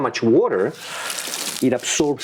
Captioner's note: water dripping